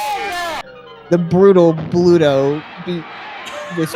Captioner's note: groans and yells of complaint; mournfully